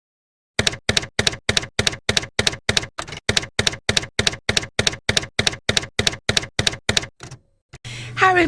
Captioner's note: typewriter keys clacking